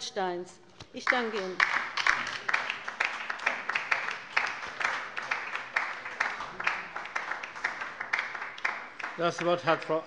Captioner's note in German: Beifall bei der LINKEN